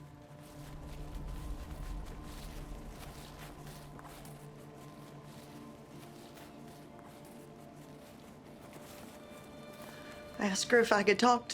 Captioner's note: flashback, footsteps